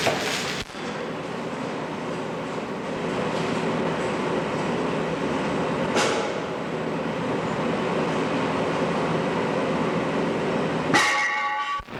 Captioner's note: background construction noise and clanging